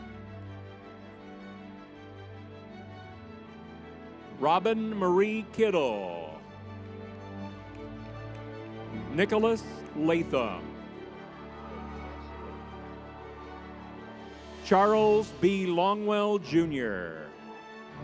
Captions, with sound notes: (inspirational music) Robin Marie Kittell. Nicholas Latham. (crowd cheering) Charles B. Longwell Jr.